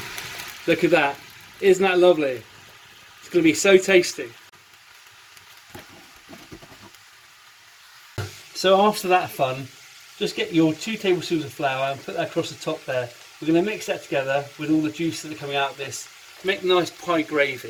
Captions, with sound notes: Look at that isn't that lovely it's gonna be so tasty, so [FRYING] After that fun just get your two tablespoons of flour and put across the top there We're going to mix that together with all the juice that are coming out of this make nice pie gravy